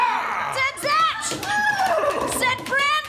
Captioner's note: whinying